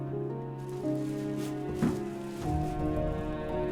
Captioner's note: rustling